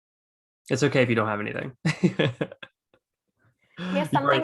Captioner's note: laughs